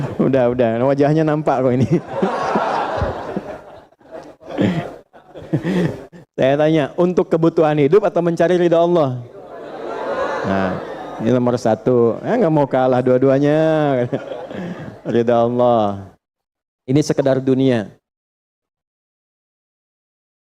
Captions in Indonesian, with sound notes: Udah, udah. Wajahnya nampak kok. Ini [tertawa] saya tanya untuk kebutuhan hidup atau mencari rida Allah? Allah. Nah, ini nomor satu. Ya, enggak mau kalah dua-duanya. Rida Allah. Ini sekedar dunia.